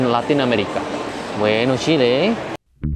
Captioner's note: Spanish